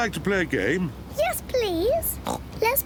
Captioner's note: oinks